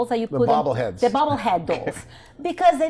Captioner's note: chuckles